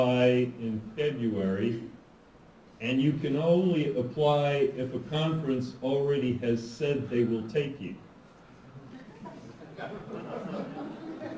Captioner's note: laughter